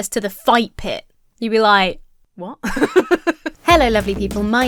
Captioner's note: laughs